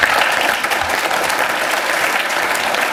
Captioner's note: applause